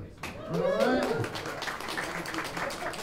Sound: applause

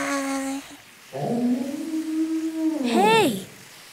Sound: whale singing

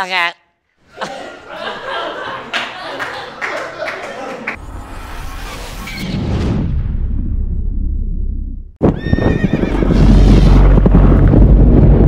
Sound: laughter

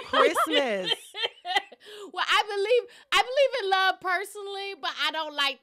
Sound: laughter

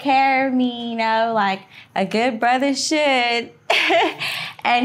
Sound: laughing

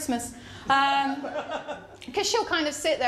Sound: laughter

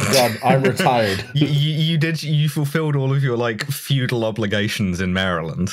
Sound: laughter

